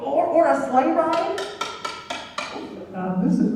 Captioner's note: SOUND EFFECT: taps baton loudly